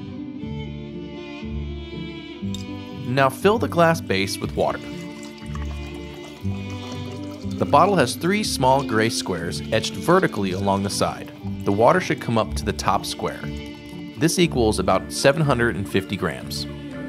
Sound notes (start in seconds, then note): 0.2 gentle music; 5.5 water splashing